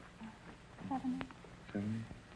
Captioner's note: whispering